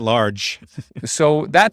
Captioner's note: laughs